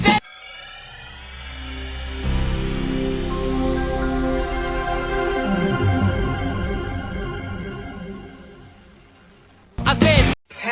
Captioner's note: Windows NT 4 startup sound.mp3